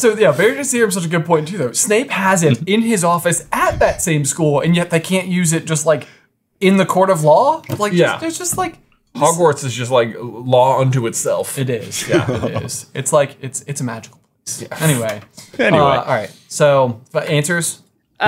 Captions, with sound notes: so yeah, Veritaserum is such a good point too though. Snape has it in his office at that same school, and yet they can't use it just in the court of law? - Yeah. - There's just like... - Hogwarts is just like law unto itself. - It is, it is. - Yeah. - It's like it's a magical place. - Yeah. (scoffing) - Anyway. - Anyway. - All right, so, but answers?